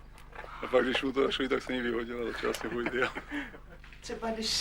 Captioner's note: laughter